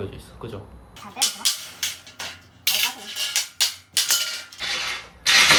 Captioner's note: hammering again•••